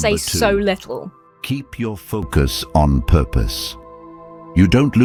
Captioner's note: AI Voice